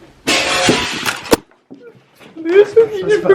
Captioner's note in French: Vitre qui se brise